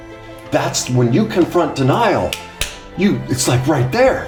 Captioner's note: claps